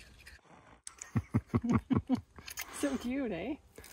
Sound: laughs

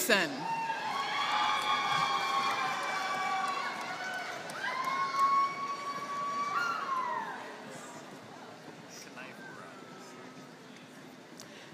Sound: applause

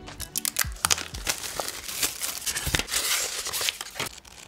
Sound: plastic rustling

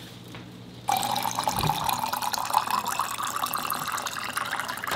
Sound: plant rustling; water running

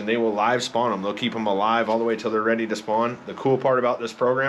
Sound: none

